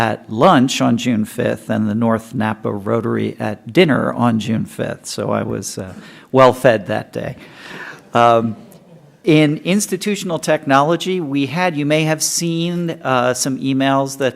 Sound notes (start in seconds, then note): 8.6 laughter